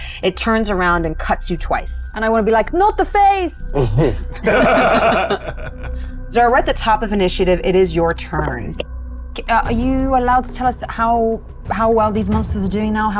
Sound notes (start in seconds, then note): 4.3 chuckle